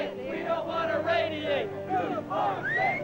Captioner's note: chants